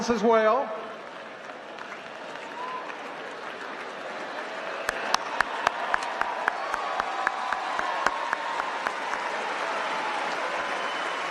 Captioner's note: applause